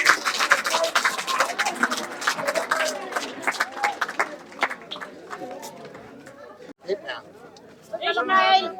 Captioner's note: applause